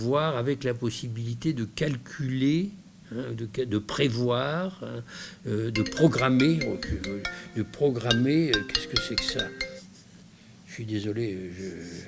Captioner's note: phone rings, he apologizes